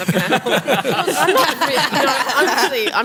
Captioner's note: laughter